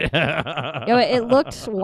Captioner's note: laughing